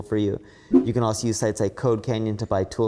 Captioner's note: graphics whooshing